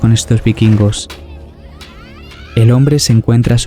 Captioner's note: wood crash